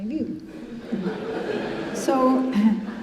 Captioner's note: congregation laughing